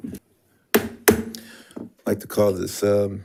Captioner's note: gavel clacks